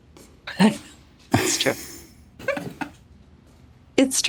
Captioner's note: laughs